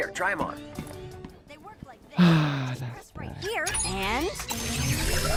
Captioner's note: sigh